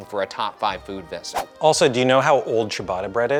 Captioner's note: graphic whooshing